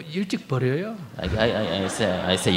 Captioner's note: audience laugh